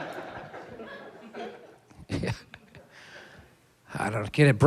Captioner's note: chuckles